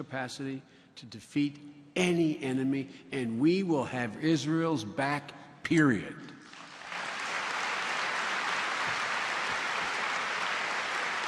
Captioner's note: applause